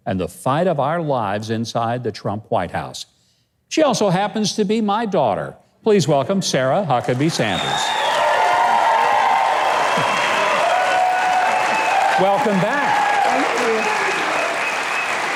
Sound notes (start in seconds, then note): 6.9 audience clapping; 7.0 audience cheering